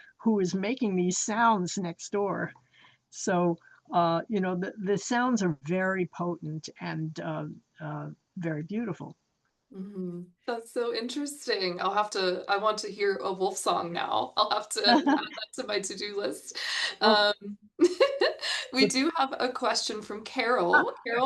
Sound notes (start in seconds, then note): 14.8 chuckles; 17.8 chuckles